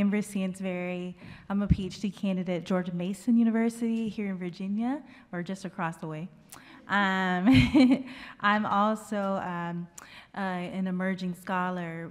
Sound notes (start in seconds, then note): 7.4 laughter; 7.7 chuckles